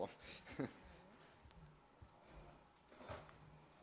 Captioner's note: laughs